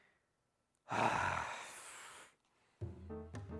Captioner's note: grunts